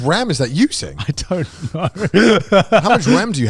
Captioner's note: laughing